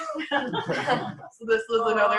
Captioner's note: laughter